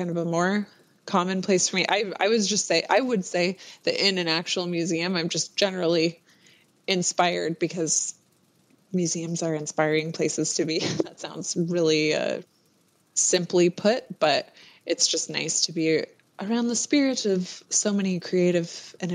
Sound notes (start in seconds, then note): 10.8 laughs